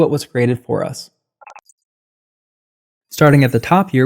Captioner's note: beep